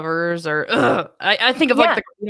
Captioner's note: growls